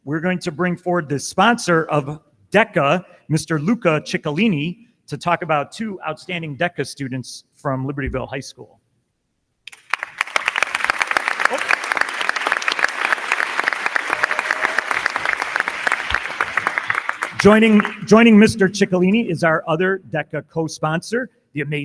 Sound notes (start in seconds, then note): 9.6 crowd clapping; 9.7 crowd cheering